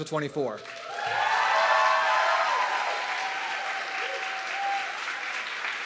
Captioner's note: audience clapping and cheering